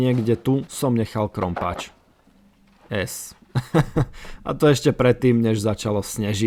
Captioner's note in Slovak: smiech